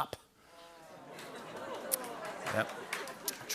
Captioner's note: audience ohhs and awws